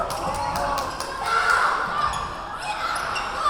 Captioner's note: yelling